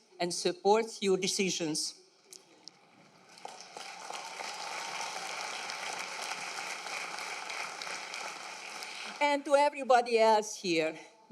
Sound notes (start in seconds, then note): 3.1 applause